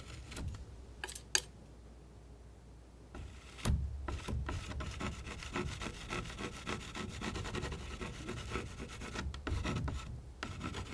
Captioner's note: scratching; scratching